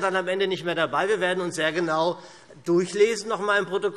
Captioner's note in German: none